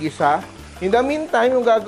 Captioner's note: sizzle